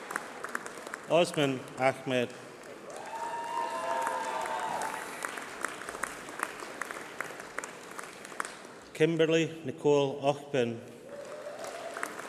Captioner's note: applause